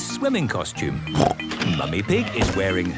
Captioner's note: snorts